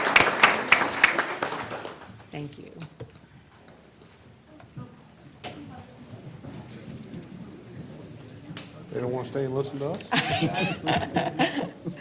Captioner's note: applause